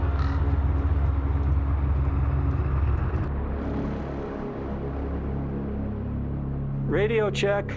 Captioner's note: wind